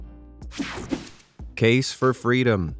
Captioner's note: scene change whirs